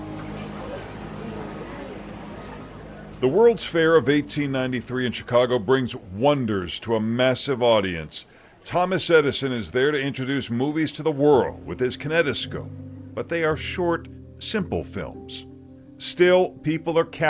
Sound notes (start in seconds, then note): 1.7 people chattering